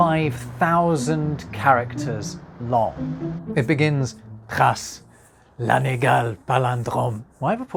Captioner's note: in shocking French accent